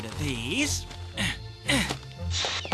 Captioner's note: grunts